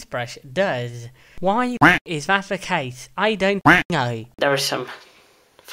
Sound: quack

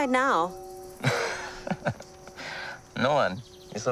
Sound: laughing

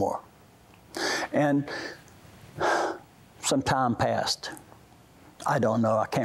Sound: sigh

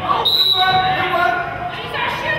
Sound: whistle blows

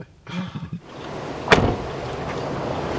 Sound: car door slams

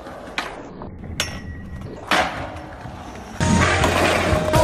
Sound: skateboard sounds

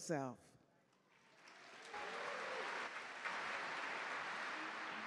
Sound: audience clap

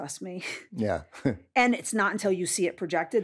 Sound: chuckles

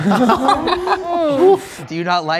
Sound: all laughing

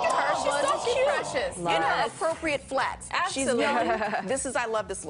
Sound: laughter

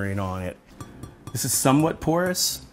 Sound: tapping

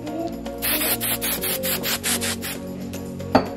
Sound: spraying

